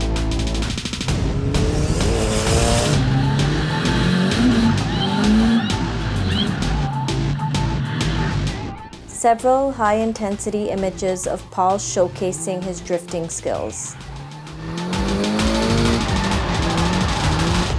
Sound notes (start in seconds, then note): 5.2 yells; 11.1 tires squeal